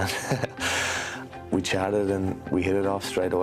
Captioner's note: laughter